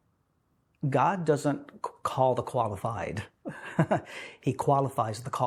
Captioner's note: chuckling